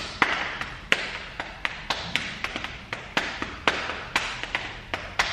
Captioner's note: clapping and patting rhythm